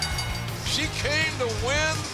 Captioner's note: bell ringing